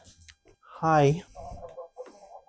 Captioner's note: in farmer language